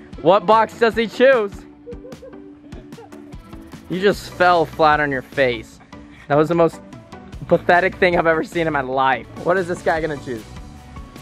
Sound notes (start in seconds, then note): 1.6 laughing